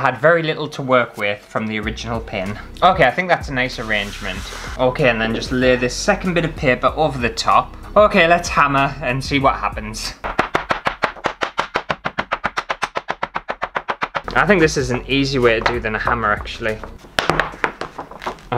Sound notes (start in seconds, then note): 10.2 fast Hammer Sounds; 16.7 paper Crunch